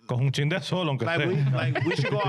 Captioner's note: speaking Foreign Language